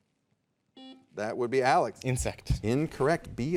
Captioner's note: soft beeping